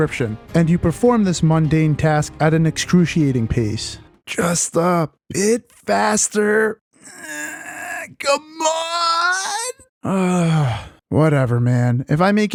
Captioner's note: sigh